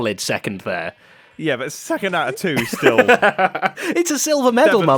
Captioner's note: laughs